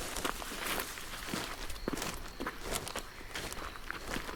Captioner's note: grass rustling; footsteps crunching